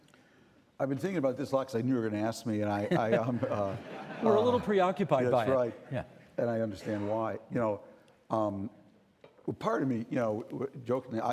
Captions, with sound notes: I've been thinking about this a lot 'cause I knew you were gonna ask me. And I-- (Audience laughing) We're a little bit preoccupied by it. That's right. And I understand why. You know, um, part of me, you know, jokingly--